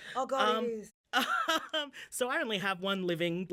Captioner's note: laughing